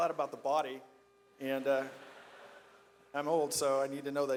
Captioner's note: audience laughs